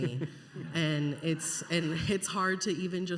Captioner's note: scattered audience laughter, murmuring